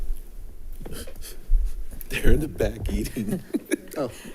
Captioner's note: laughing; group laughing